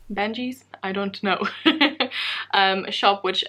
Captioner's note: laughs